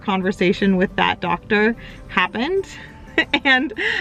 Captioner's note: chuckles